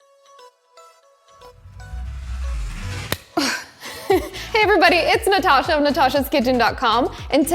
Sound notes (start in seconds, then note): 1.3 upbeat music; 3.4 giggles